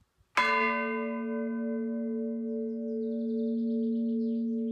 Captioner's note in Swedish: ljud av kyrkklockorna